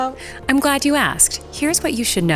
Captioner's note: voiceover